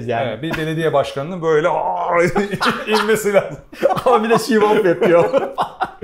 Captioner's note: laughs